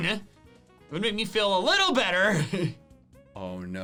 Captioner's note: laughs